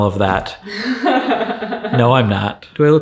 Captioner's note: laughing